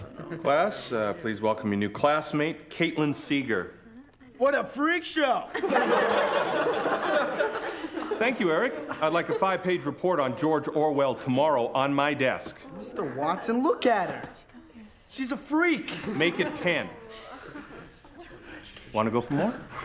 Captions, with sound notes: Class please welcome your new classmate, Caitlin Seeger. - What a freak show. (class laughs) - Thank you, Eric. I'd like a five page report on George Orwell tomorrow on my desk. - Mr. Watson look at her. She's a freak. - Make it 10. Wanna go for more?